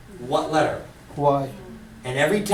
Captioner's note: voiceover